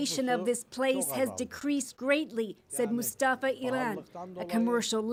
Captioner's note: speaking alternate language